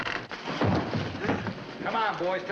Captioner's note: thump